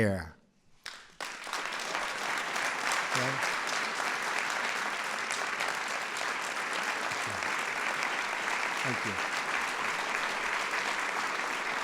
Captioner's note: applause